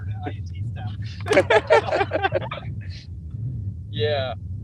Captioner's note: laughter